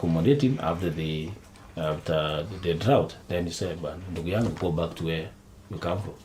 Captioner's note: continues in Kiswahili